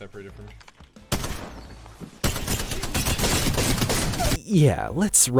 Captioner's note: gunfire blasts